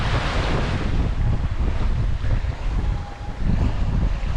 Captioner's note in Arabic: هدير الرياح